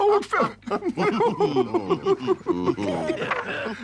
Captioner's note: all laugh